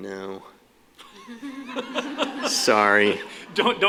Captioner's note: laughter